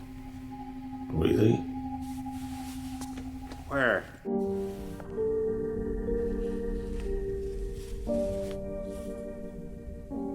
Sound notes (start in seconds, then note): 4.7 soft dramatic music; 6.2 pages rustling